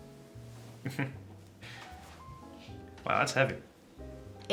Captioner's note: Jack chuckles